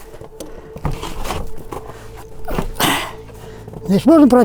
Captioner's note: grunting